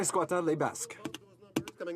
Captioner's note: some Applause